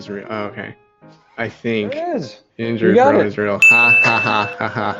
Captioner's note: sound: Ding